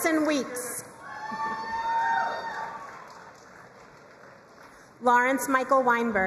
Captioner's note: crowd cheering and applauding